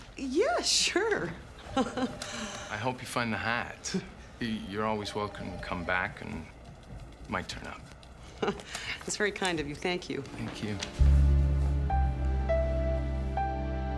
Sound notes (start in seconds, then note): 1.6 Nora laughs; 11.3 gentle music